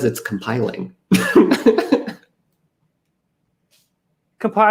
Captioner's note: laughs